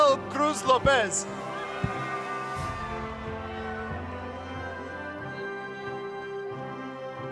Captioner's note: applause